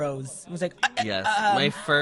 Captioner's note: stuttering